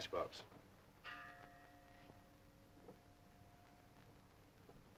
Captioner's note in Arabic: رنين الجرس